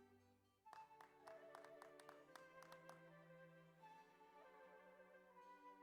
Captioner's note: audience applauds; slow orchestral music continues